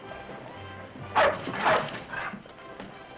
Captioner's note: band music in distance; dogs barking